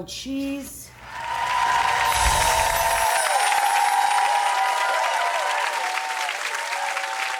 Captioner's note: crowd cheering; bright chimes